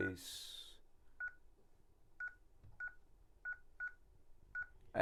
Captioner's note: beeps